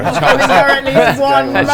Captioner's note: laughter